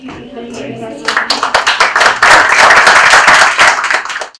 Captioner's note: audience clapping